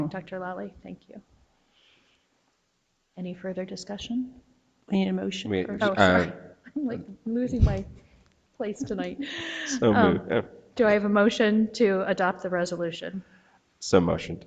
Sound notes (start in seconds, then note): 9.0 laughs